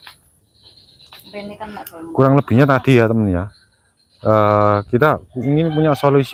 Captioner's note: cricket Sound